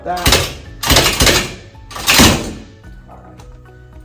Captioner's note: table rattling